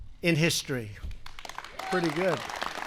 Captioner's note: applause